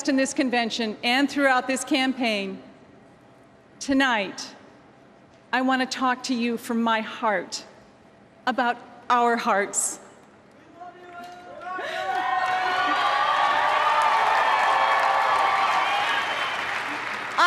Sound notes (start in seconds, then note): 11.5 applause